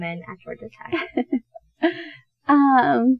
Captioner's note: softly laughs